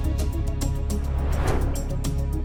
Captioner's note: suspenseful music continues; transition whooshing